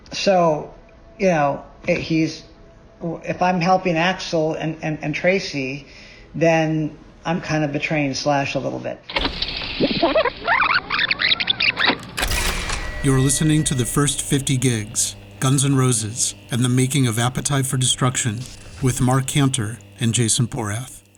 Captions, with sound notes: So, you know, if I'm helping Axl and Tracii, then I'm kind of betraying Slash a little bit. (tape screeching) - You're listening to "The First 50 Gigs, "Guns N' Roses and the Making of "Appetite for Destruction" with Mark Canter and Jason Porath.